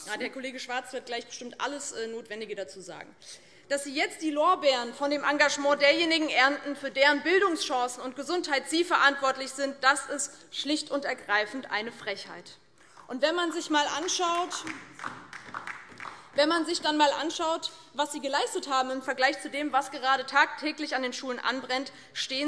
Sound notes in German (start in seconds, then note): 12.5 Beifall DIE LINKE